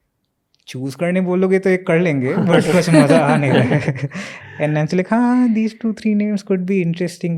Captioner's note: speaks in Hindi